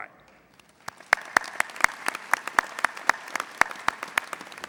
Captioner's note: audience applauding